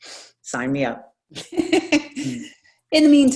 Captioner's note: laughs